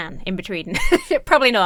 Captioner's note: laughs